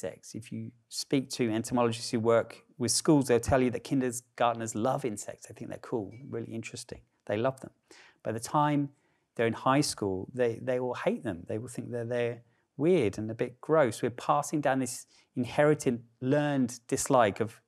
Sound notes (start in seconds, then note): none